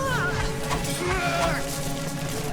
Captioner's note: Naga grunts; Sogomo grunts